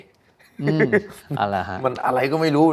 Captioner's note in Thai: เสียงหัวเราะ